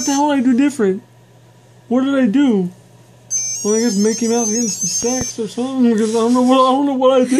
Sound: laughs

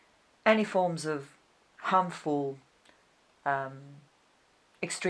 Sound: pauses for 3 seconds

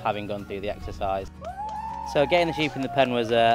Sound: everyone cheering

